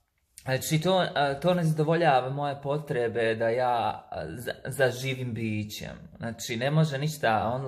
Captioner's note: talking in Bosnian accent